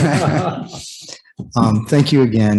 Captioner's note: laughter